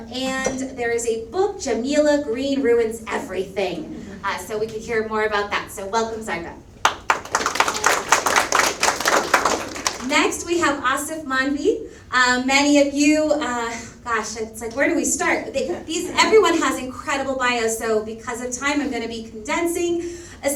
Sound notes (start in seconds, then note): 6.8 audience applauds